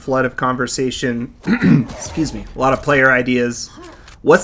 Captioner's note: clears Throat